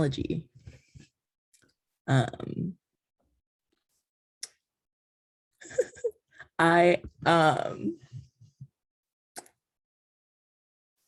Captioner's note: chuckling